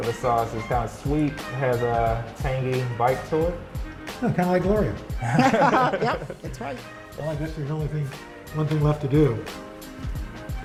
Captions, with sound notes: This sauce is kind of sweet. Has a tangy bite to it. - Kind of like Gloria. (laughter) - Yep! That's right. - One thing left to do.